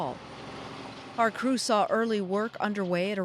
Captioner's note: engine roaring